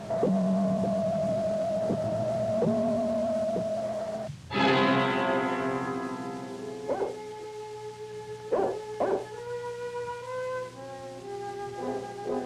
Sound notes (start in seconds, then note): 6.8 dog barking